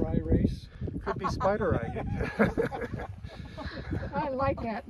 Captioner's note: laughter